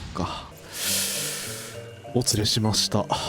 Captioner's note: very big deep breath